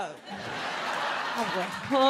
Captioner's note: audience laughs